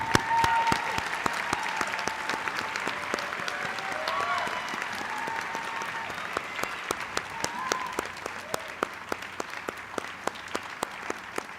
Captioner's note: applause